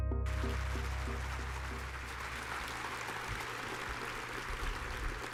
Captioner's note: audience applauds